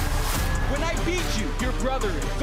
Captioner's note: sirens wail